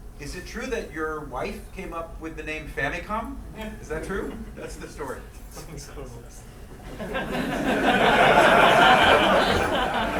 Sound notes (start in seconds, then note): 7.0 laughing